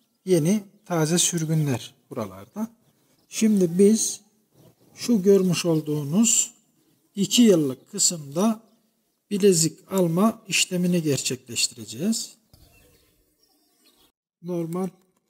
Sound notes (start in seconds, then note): 12.4 bird sounds